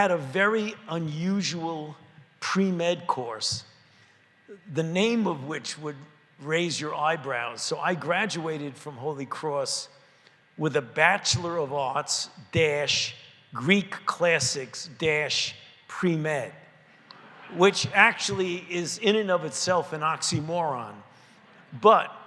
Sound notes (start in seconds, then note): 17.0 laughter